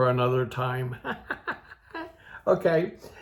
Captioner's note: old Man laughing